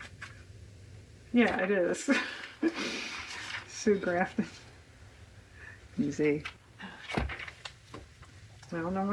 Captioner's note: laughs